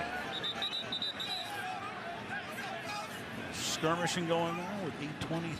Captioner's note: whistle